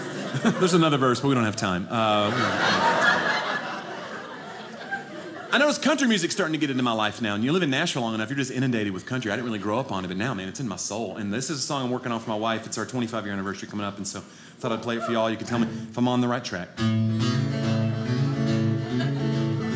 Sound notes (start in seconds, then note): 1.9 audience laughing; 16.7 guitar music playing